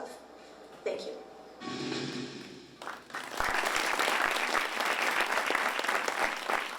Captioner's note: applause